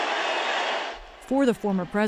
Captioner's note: cheering